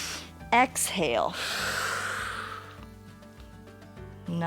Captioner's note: exhales; inhales